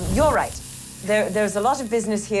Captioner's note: paper burning up